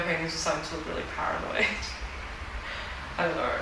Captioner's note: laughs